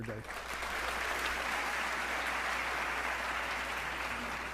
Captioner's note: audience applauding